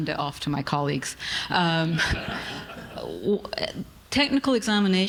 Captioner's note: audience laughing